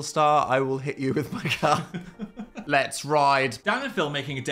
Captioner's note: chuckles